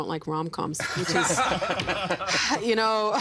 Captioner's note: laughing